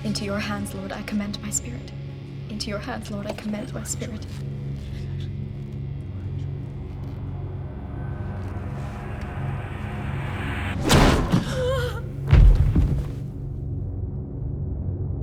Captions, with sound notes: Into your hands, Lord, I commend my spirit. Into your hands, Lord, I commend my spirit. -[woman gasps] -[body thuds]